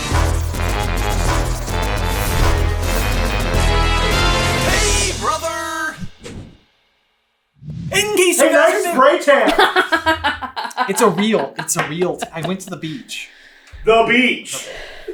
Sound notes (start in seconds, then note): 0.0 intro Theme Music; 9.4 cracking up